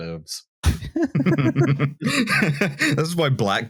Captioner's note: laughter